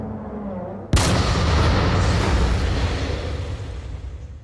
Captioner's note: gun fires